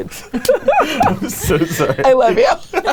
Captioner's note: laughing